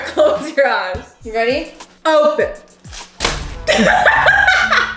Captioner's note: laughs